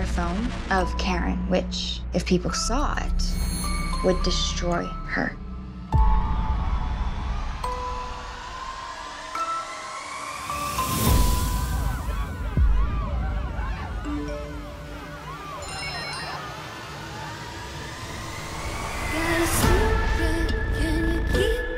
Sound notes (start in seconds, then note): 12.0 crowd cheers in background; 13.7 phone chimes